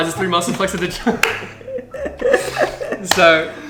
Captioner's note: chuckles